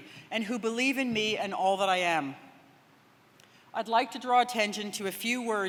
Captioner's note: none